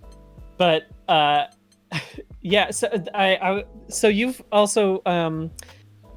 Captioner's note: sighs